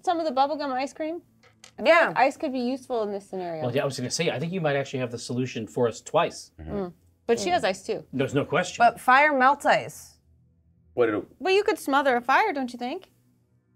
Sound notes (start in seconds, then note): none